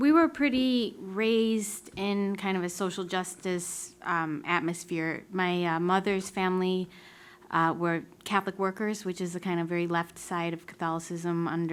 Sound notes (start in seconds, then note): none